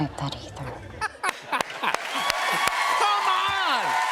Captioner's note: laughter